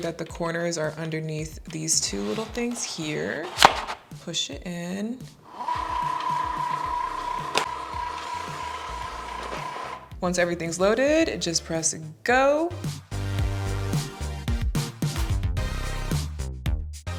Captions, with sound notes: that the corners are underneath these two little things here. Push it in. (Cricut whirring) Once everything's loaded, just press Go. (upbeat music continues)